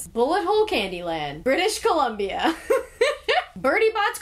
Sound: laughs

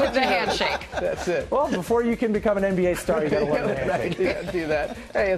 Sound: laughs

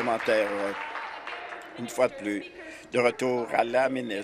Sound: applause

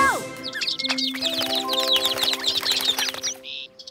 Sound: tweeting

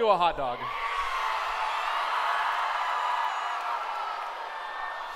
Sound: cheering

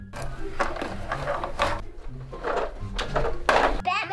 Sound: shuffling

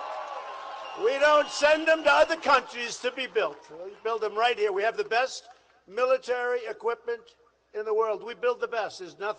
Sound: applause

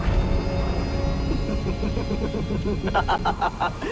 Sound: laughs

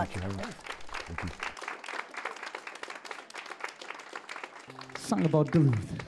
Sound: applause

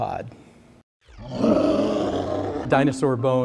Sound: dinosaur roars

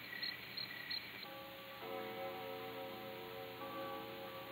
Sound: clock chiming

